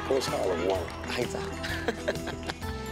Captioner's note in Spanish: Risas